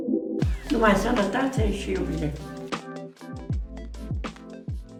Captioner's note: speaking Romanian